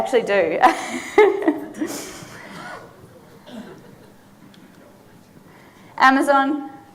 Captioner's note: laughing; audience laughing